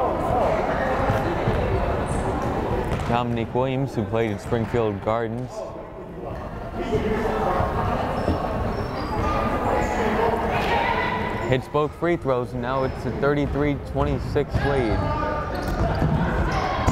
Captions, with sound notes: Dominique Williams who played at Springfield Gardens. (crowd chattering) Hits both free throws, now it's a 33-26 lead.